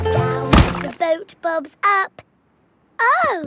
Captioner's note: thuds